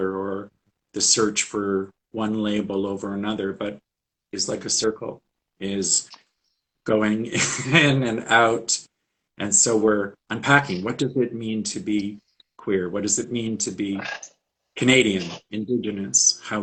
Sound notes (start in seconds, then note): 7.1 laughs